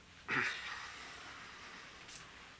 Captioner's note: clears throat